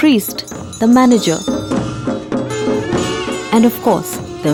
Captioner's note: bells jingling; soft drumming; reed pipe music; trumphets blowing